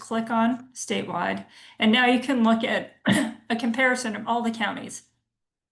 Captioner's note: clears throat